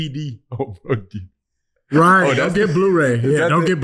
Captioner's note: laughing